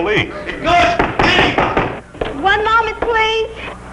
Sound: Mr. Horace continues to scream through the door

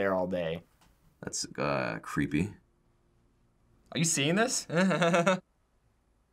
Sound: chuckles

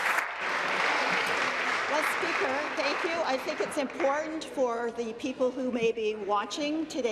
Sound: applause

